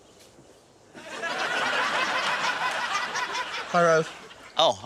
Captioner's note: laughter